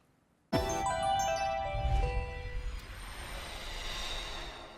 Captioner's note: chime sound